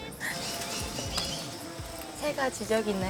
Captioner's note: birds chirping